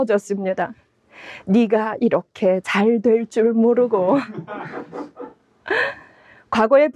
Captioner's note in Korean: 웃음